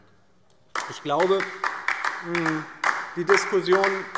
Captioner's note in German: Beifall DIE LINKE